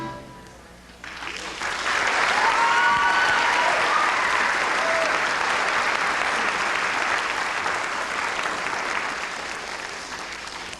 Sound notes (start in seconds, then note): 1.0 applause